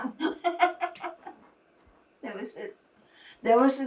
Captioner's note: laughing